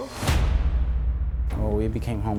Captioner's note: dramatic slamming